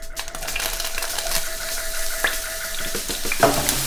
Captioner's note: onions sizzle